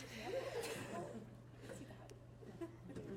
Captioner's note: laughter